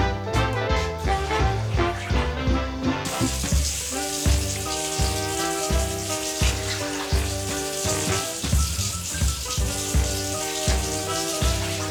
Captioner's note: water running down the drain